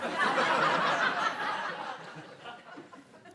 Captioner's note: laughter